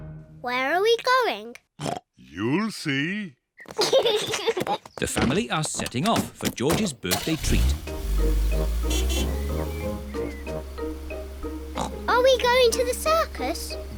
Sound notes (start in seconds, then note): 1.8 oinks; 3.6 kids giggle; 7.2 horn honks; 11.7 oinks